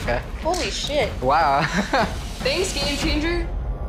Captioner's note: laughs